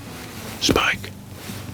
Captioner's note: whispering